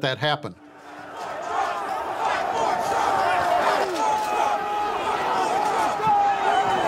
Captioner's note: chanting